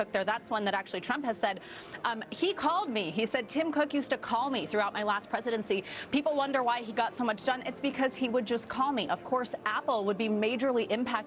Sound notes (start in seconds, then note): none